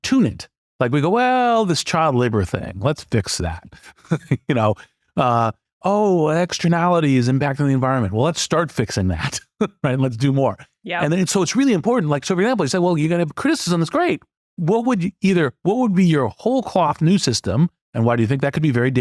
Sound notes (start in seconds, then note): 3.8 laugh; 11.0 laugh